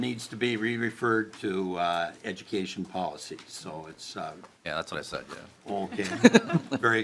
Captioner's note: laughing